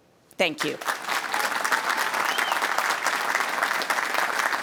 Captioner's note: audience applauding